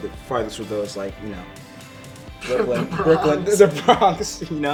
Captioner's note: laughs